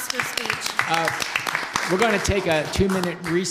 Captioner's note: applause